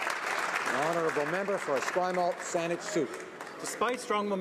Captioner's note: some Applause